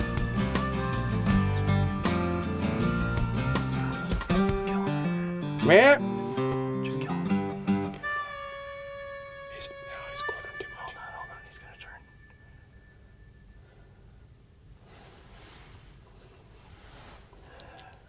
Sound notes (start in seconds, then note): 5.8 deer call